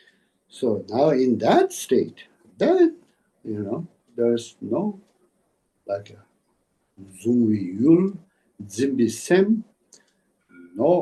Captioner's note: tibetan